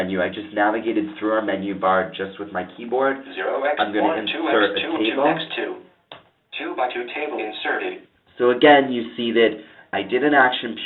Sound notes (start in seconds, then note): 6.1 computer speaking